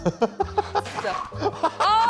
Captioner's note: tearing sheets